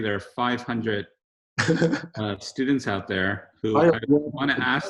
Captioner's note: laughs